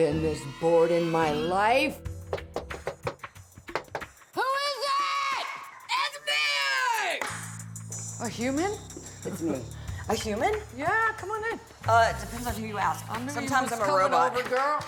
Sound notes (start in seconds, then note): 2.2 knocking